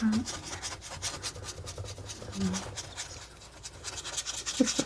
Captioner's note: scratching